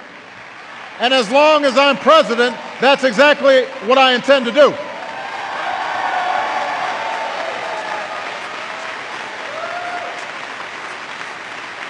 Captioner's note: applause